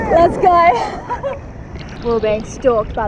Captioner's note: laughs